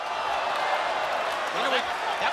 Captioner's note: crowd cheering